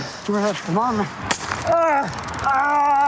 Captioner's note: taser gun crackles